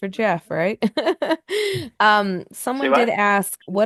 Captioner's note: laughs